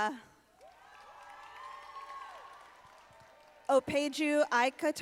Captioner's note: audience applauding